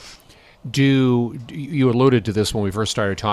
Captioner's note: voiceover